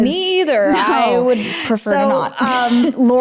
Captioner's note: laughs